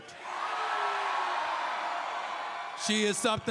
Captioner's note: crowd cheers